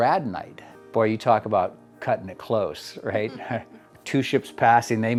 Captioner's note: chuckles